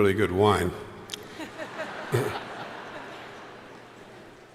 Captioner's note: crowd laughing